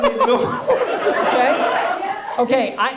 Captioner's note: audience laughs